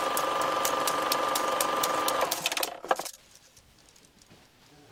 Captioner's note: projector switches off